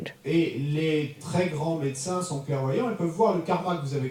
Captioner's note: audience member speaks in French